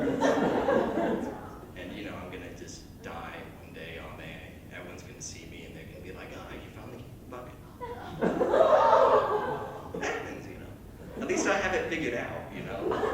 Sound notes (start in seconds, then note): 0.0 laughter; 7.7 shocked Laughter